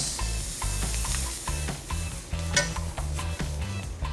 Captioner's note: sizzling